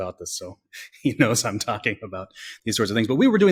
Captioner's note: laughs